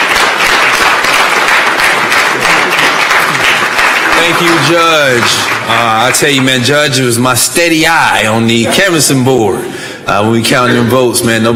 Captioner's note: applause